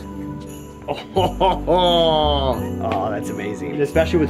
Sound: laughs

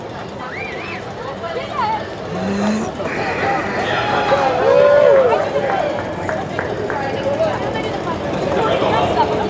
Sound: crowd clapping

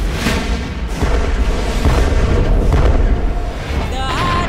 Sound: gun fire

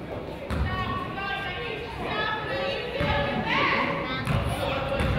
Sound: coach yells

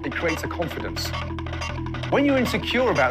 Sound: scooby doo running noises

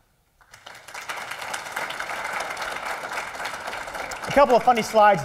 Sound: applause

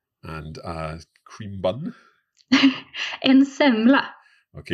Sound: laughs

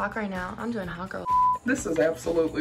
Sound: beep

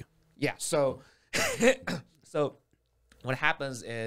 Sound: coughs

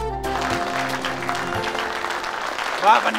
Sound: audience clapping

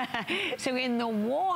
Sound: laughter

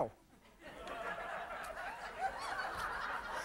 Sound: laughter

